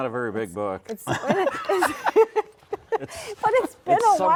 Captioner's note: all laugh